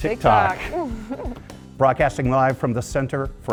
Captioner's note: laugh